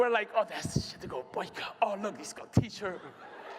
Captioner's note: laughter